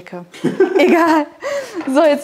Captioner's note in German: lacht